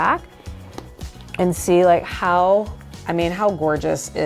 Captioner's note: clasp clicks